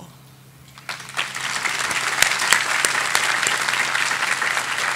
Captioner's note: audience applauding